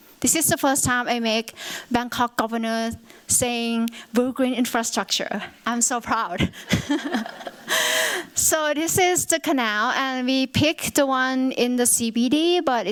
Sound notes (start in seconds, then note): 6.6 laughter